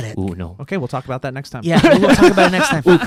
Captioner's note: laughs